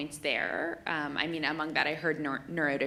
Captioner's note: none